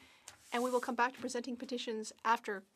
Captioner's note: speaking French